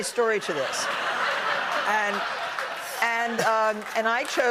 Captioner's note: laughter